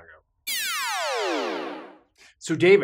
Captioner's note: electronic buzzing